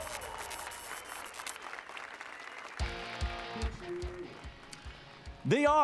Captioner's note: applause and cheers